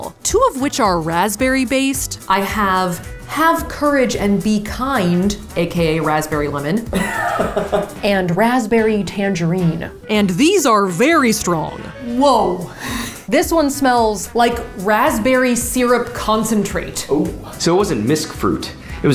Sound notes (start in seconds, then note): 6.4 laughs